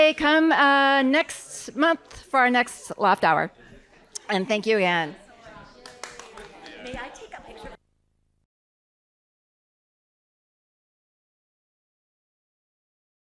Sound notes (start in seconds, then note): 5.7 applause